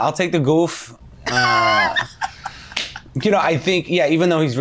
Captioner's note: laughing